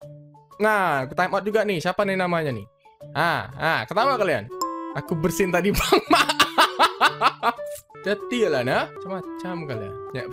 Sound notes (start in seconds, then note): 5.8 laughs